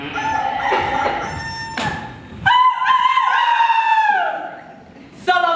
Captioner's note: rooster crows